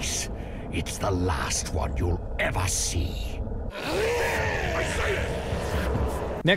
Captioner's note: grunts